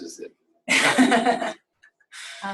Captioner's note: laughs